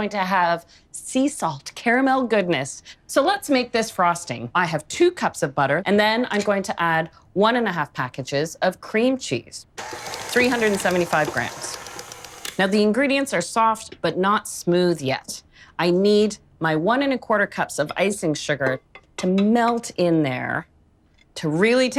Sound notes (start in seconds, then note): 11.9 mixer whirs